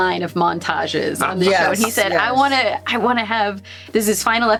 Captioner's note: Gould laughs